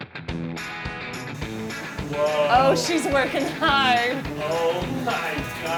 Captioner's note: fast-paced guitar music; vacuum humming